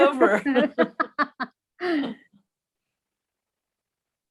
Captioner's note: chuckling